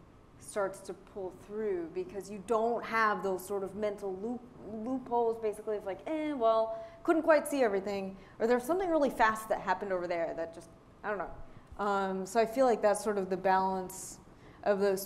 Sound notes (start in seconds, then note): none